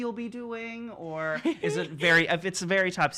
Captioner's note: giggles